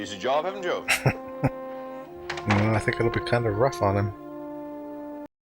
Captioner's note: chuckling